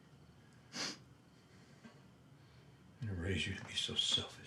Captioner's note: Isaac sniffles